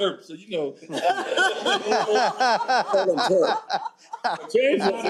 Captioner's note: laughter